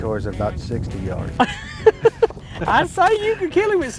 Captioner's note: laughing